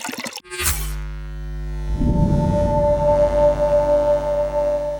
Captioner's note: water spattering; electricity buzzing